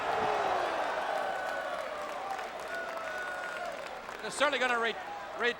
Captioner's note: audience applauding and cheering